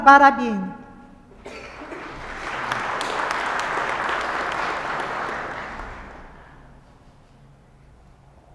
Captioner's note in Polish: oklaski